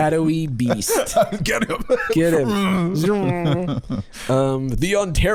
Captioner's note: both making zooming sounds